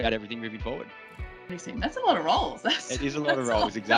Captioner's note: laughing